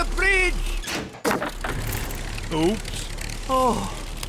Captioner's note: crunching